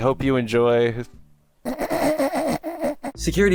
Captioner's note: desperately trying not to laugh